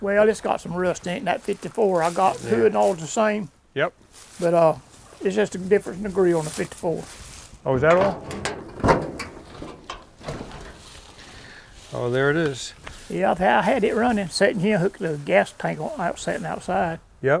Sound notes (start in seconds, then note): 7.8 hood clanking